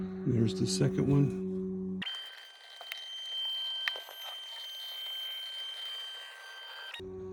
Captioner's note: motor sound